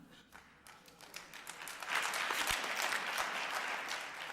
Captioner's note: applause